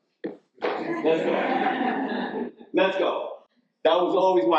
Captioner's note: audience laughs